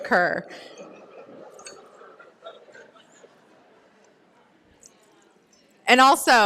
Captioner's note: pause